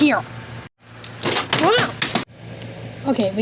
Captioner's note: exclaims